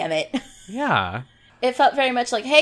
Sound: laughs

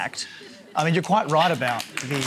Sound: applause

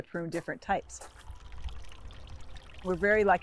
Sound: stream gurgles

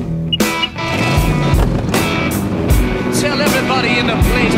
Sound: engine revving; device beeping

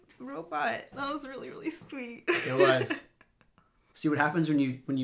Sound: chuckles

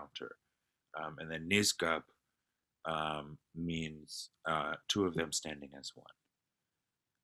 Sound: non-english speech

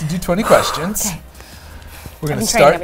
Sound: exhales

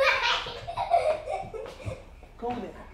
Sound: giggling child

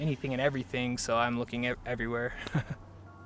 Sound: chuckles

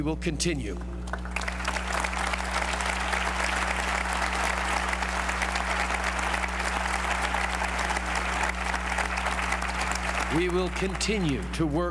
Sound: applause

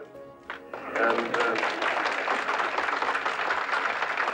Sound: crowd applauding

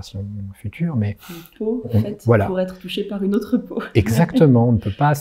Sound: voiceover

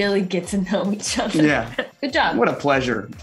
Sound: laughing

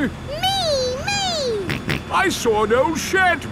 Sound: snorts

